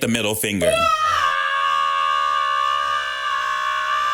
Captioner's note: yelling